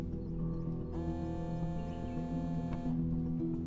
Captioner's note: Cell phone vibrating